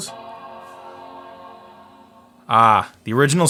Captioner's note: chiming